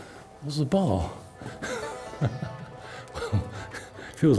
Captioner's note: laughs